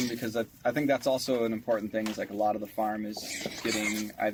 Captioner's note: pigs squealing